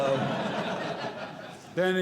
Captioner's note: audience Laughing